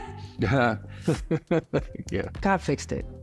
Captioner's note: laughing